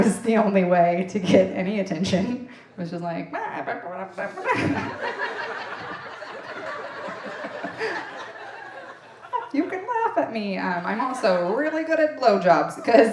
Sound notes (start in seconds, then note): 3.5 making comical mouth noise